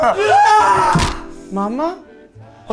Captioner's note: fist slams into wall